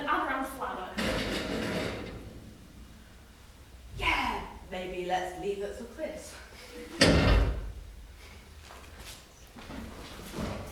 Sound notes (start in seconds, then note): 2.2 loud creak; 7.0 another bang